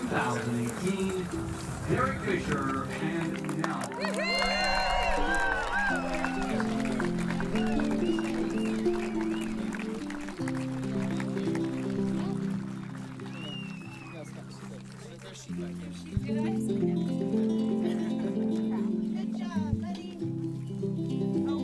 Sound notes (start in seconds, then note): 4.3 audience applauds; 8.9 acoustic guitar music; 13.9 people chattering